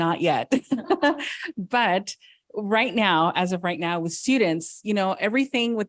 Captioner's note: laughs